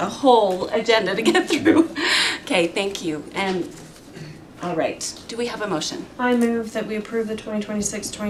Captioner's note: laughter